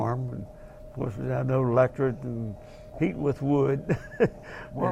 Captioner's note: laugh